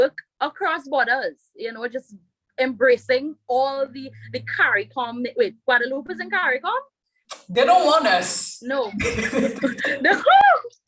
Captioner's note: rires